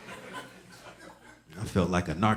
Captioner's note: audience laughing